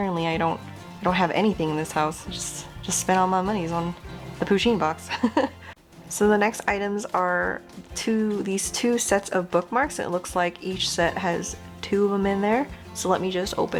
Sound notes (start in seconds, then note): 5.1 laughs through pain of empty wallet